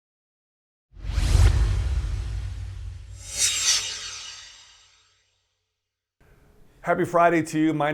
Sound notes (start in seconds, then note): 0.9 swoosh